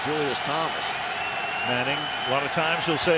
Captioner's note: cheering